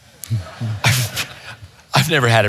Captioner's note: audience chuckles